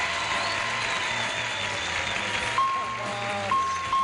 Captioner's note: bell dinging